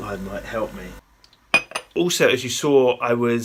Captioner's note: mug clinks